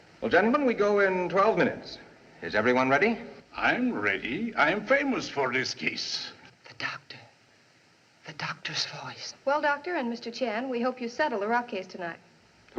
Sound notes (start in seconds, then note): 6.5 whispering